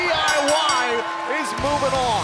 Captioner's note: bell ringing